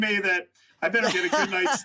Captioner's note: laughs